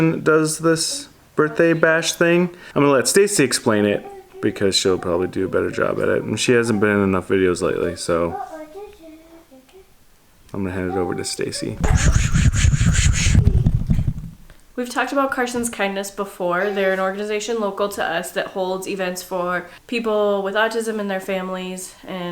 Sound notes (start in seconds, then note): 8.9 singing; 11.8 whooshing sounds